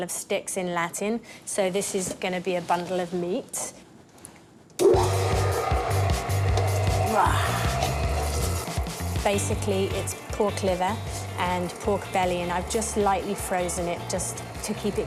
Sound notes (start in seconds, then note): 4.8 machine whirrs loudly; 7.2 roars